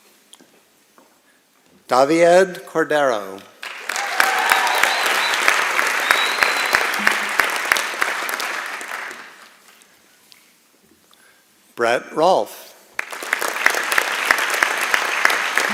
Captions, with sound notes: Davied Corderro. [ Applause and Cheering ] Brett Rolf.